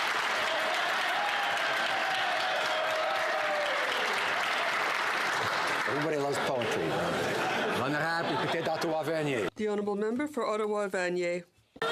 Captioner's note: some Applause